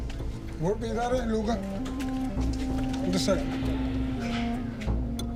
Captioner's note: speaking foreign language